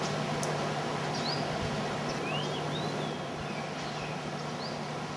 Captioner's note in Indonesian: suara kicauan burung